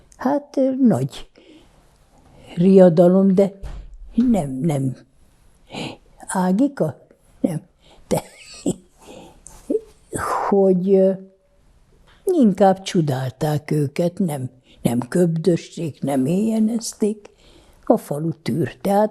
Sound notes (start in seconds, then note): 8.2 laughing